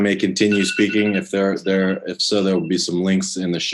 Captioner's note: phone ringing